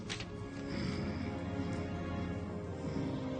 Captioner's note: snoring